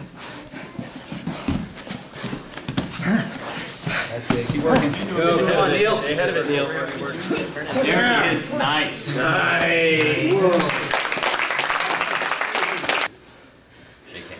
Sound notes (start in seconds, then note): 4.1 soft thudding; 9.9 audience applauding